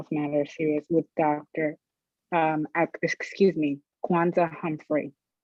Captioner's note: stutters